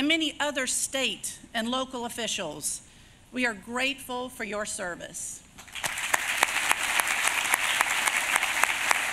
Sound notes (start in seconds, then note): 5.6 applause